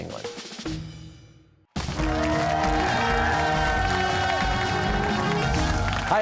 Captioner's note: cheers and applause